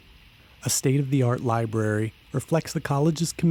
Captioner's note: voiceover